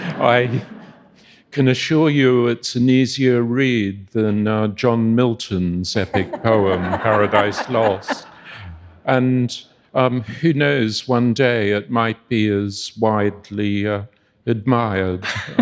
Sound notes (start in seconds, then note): 6.0 audience laughing